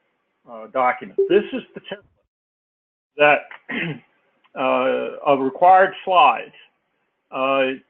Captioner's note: cough